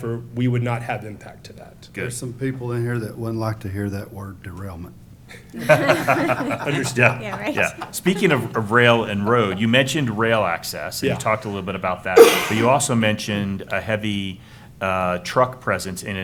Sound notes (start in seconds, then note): 5.4 laughter